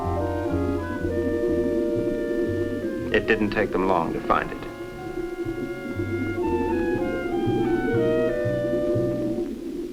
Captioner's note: gurgling